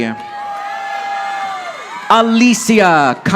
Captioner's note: audience applauding